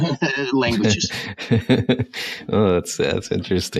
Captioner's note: laughs